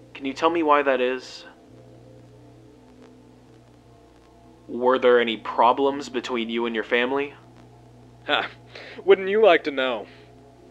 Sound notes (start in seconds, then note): 1.4 silence